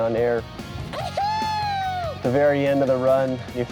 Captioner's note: joyful shouting